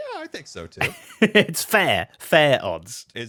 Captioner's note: laughs